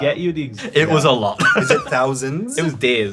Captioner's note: laughs